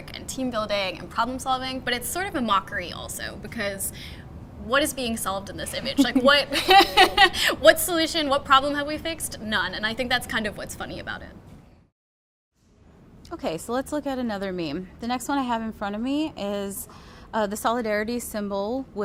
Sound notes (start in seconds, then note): 5.8 laughs; 5.9 giggles